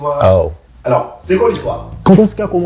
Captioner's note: in narration tone